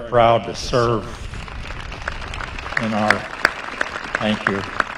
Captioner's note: applause